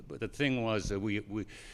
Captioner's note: none